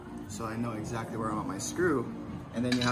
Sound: none

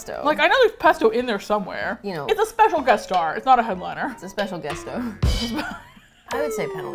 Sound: laughs

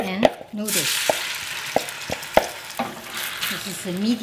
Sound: sizzling

